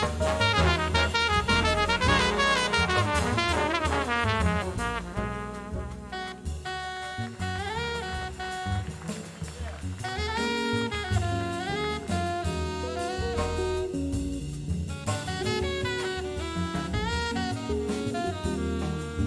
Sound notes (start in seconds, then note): 6.6 audience applauds; 6.6 saxophone solo